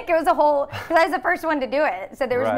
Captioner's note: laughs